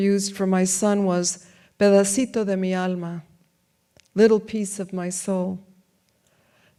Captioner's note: speaks in foreign language